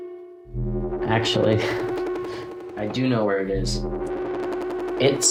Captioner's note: chuckles